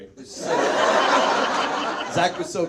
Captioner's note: audience laughs